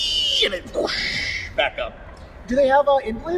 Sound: whooshing

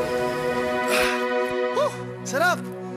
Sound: exhales

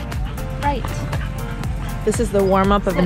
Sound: dog panting; upbeat music continues

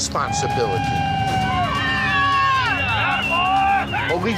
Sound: cheering

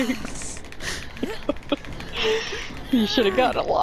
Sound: still singing; laughs

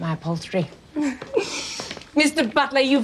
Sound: half-laughs

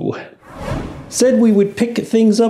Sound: air whooshing

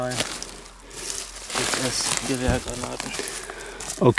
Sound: murmuring

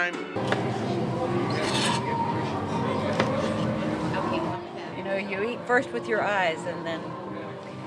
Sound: knife hitting cutting board

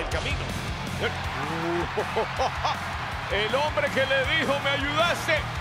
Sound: laugh

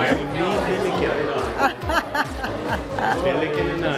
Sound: laughs

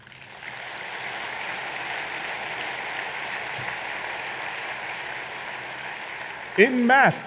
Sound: applause

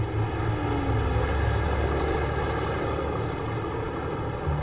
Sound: truck rumbling

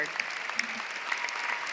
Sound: applause

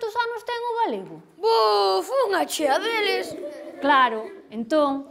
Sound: kids laugh

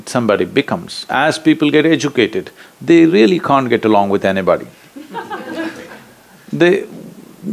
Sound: laughter

